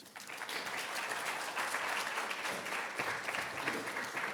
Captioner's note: audience applauding